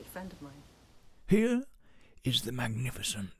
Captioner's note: David Attenborough Impression